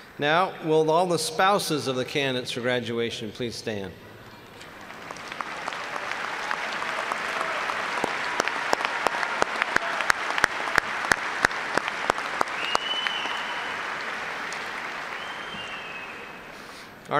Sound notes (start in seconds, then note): 4.6 applause